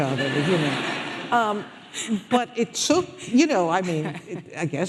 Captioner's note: audience laughing